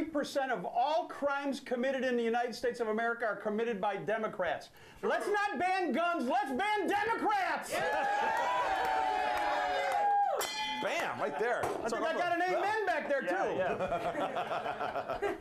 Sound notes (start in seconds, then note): 7.5 bell rings; 7.6 audience cheering